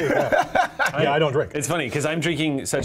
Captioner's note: laughing